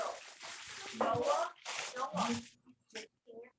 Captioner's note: chatter